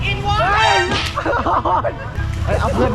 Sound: awkwardly chuckles

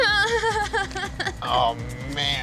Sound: laughs

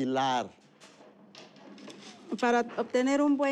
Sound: speaking spanish

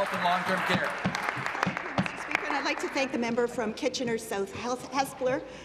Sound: applause

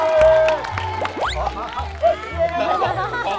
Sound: everybody claps

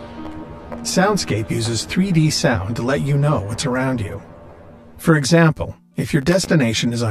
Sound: male computer voice

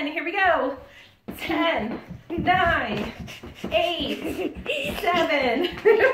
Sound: giggling

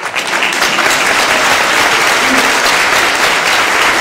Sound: applause

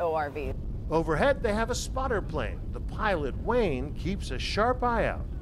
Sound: voice-over

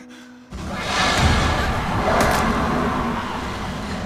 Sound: demon roars

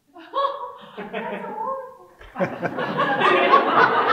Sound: audience laughing

